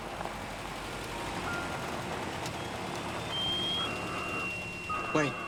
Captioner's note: alarm